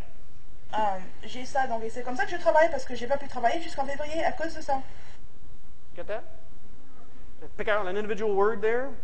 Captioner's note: talking in french